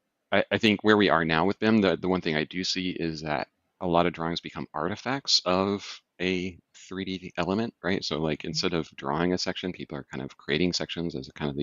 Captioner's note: laughing; laughs